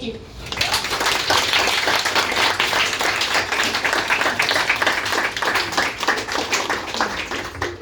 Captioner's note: applause